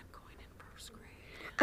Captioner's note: whispered